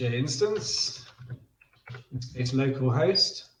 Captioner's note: keyboard typing